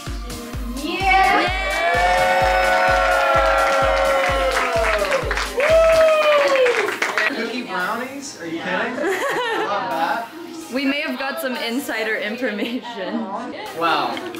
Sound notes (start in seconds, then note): 1.9 applause